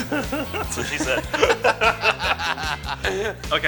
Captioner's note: laughter